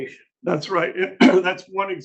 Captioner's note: clears throat